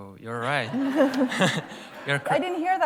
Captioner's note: laughter